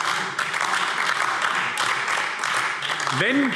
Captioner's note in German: Beifall AfD